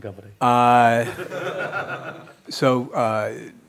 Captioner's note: laughing